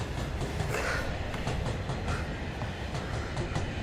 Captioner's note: panting